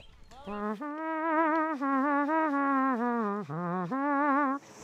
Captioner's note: humming